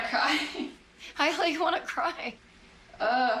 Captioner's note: chuckles; voice breaking